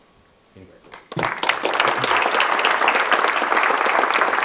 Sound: audience clapping

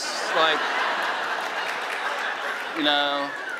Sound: laughing

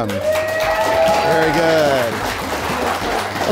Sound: cheers and applause

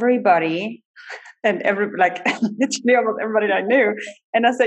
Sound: laughs

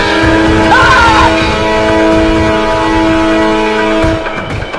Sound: screaming

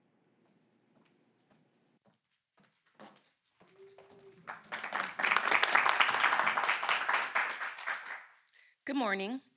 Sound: applause

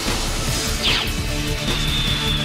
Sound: swoosh!

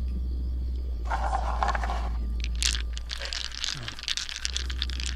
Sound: dice rattling

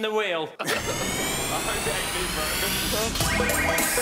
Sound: whooshing; upbeat music

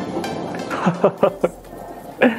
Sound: laughs

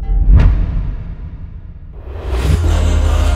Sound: audio hit; upbeat music

